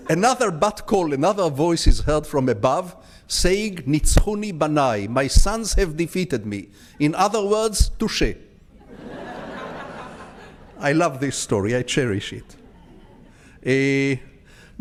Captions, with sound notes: Another bird call, another voice is heard from above saying, (speaking in foreign language), "My sons have defeated me." In other words, "Touche." (audience laughs) I love this story, I cherish it.